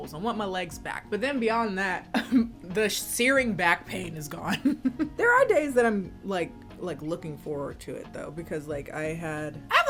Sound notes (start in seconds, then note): 4.5 laughs